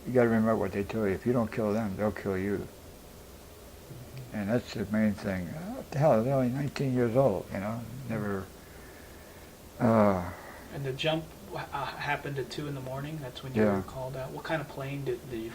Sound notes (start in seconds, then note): 9.8 sighs